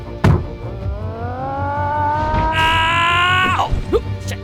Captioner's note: yells